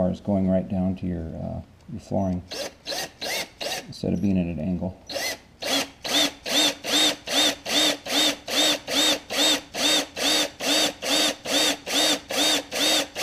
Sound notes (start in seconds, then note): 5.6 drilling sounds; 10.7 more Drilling noise